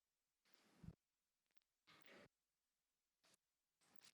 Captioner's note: sound cut